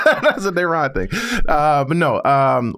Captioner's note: laugh